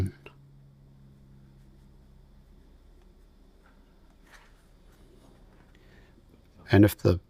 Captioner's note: silence